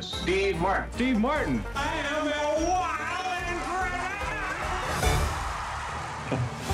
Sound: audience cheering

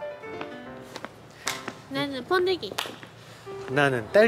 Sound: clap

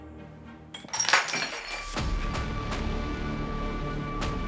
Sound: broken glass

